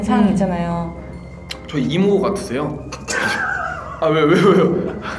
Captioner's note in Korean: 웃음